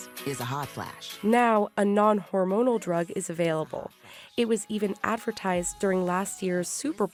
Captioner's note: voice-over